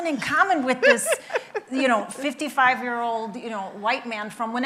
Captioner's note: laughing